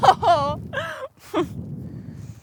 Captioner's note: laughs